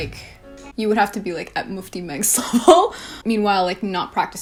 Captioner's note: laughs